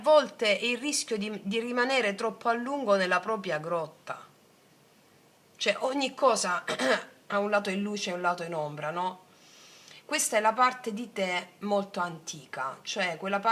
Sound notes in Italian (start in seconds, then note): 6.7 schiarire la voce